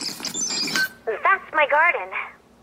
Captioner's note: video rewinding; beeps